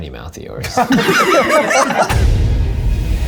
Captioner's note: all laughing; intense music